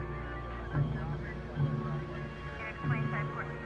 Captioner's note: radio chatter continues